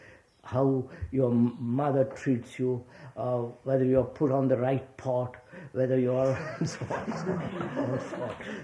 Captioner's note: laughter